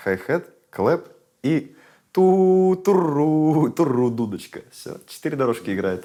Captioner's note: vocalizes